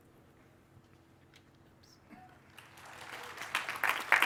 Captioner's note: applause